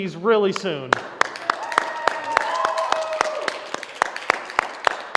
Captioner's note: applause